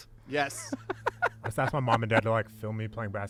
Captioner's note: laughing